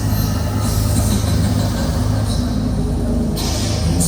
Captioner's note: sinister laughter